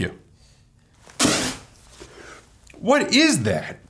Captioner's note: spits out drink